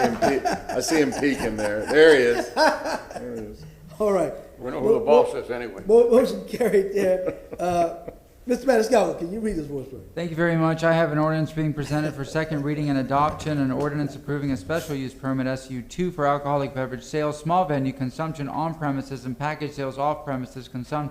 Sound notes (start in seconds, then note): 4.2 laughter